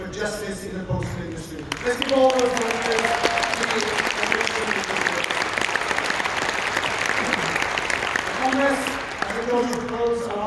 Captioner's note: applause